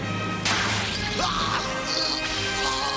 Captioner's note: yells